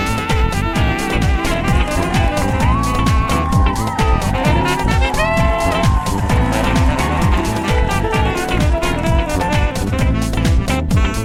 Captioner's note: pigeons cheering